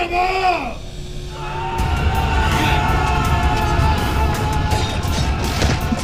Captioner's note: dramatic music; everyone screaming; metal clinking